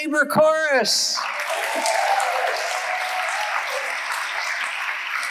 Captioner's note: audience applauding